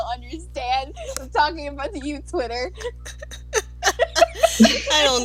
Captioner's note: laughter